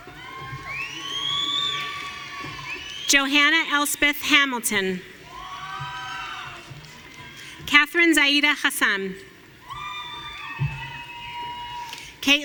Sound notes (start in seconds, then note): 0.0 audience cheering; 9.6 audience cheering